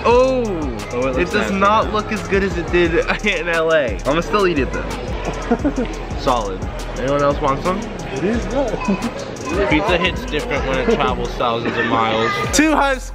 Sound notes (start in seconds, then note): 5.2 man nervous laughing